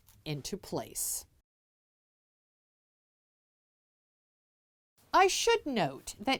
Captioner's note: no Sound Present